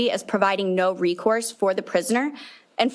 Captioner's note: none